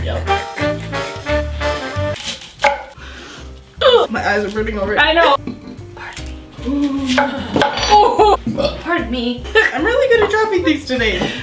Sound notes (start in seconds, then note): 0.2 funky music; 3.2 sniffs; 6.0 burps; 6.8 grunts; 8.4 burps